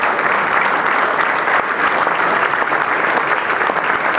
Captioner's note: applause